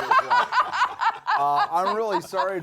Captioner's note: laughing